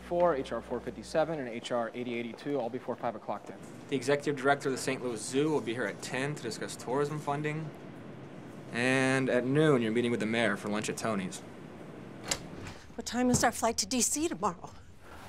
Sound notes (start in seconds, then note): 12.2 door rattling